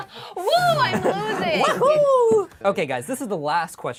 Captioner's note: group laughs; cheers